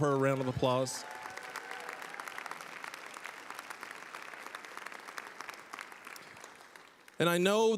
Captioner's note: applause